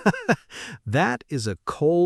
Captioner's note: laughs